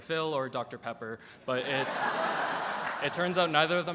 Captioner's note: audience laughs